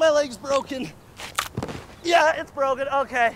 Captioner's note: faint crack